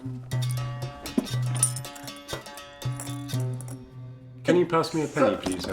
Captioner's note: coins clinking